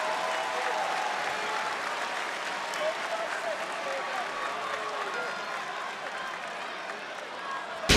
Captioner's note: applause